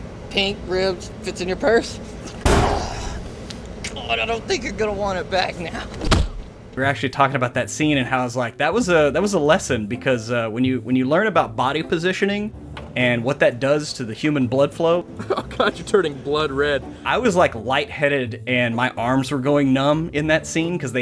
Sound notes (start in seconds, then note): 2.4 slams, groaning; 3.7 choking; 6.0 bang